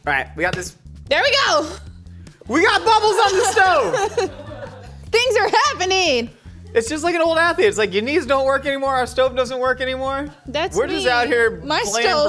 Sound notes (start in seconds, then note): 2.8 laughing